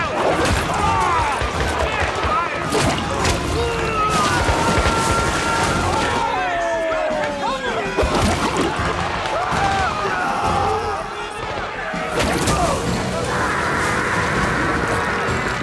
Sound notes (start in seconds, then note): 2.6 gunshots popping; 2.6 soldiers screaming; 9.8 soldiers screaming; 11.0 gunshots popping; 15.4 soldier sputtering